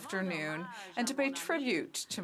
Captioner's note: speaking French